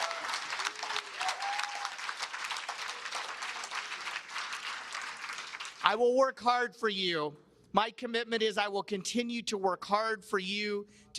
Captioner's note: cheers and Applause